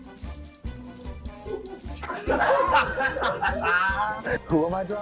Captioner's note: audience laughter; laughs maniacally